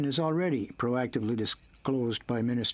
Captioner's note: speaking in french